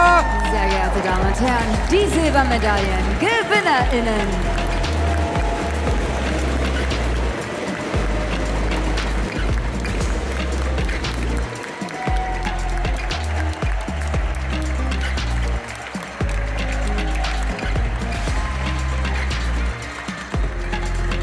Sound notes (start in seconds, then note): 5.1 applause; 5.1 ♫ Midtempo guitar music ♫